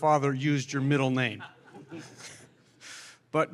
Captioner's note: laughter